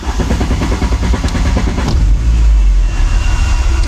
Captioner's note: car starting